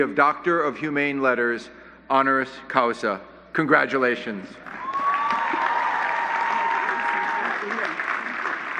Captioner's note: applause